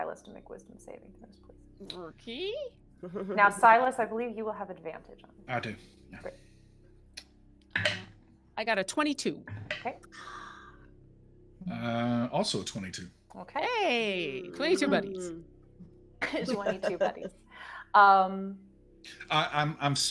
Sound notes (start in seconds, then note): 10.1 person gasping; 16.2 people giggling